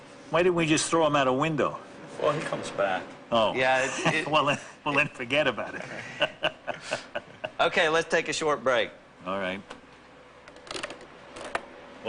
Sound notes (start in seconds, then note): 5.6 laughing